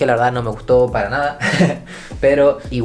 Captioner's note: laughs